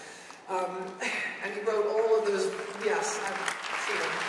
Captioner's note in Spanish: aplausos